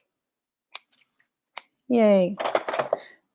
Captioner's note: scissors snipping